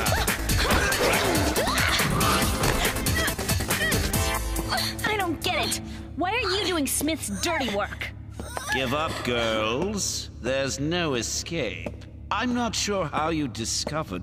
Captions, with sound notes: Where did she go? Ah! Now we got ya! [fighting noises] I don't get it. Why are you doing Smith's dirty work?